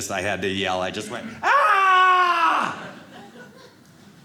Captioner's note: yells